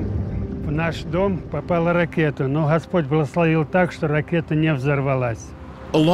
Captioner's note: continues speaking in foreign language